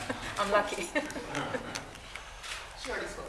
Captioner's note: laughter